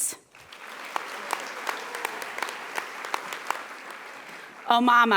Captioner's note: audience applauding